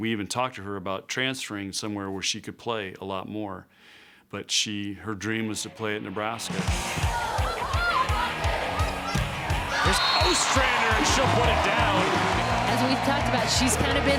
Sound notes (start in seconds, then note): 6.6 crowd cheering; 6.9 girls yelling